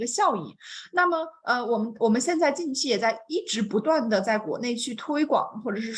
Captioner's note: continues speaking in Mandarin